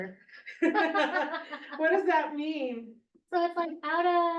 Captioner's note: laughs